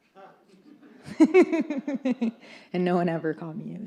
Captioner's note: laughs